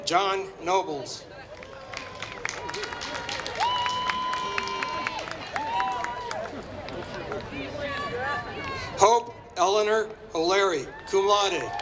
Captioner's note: applause